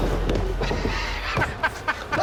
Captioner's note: laughs